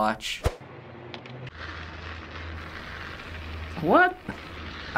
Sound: video crackles

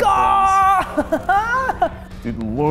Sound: laugh

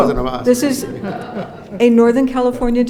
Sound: audience laughs

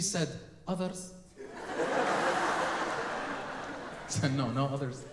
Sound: audience laughing

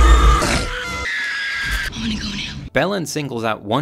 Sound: dinosaur roars; Lex screams

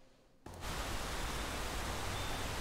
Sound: birds singing

